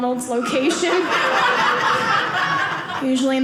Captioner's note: audience laughing